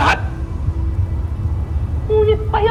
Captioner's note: wind howling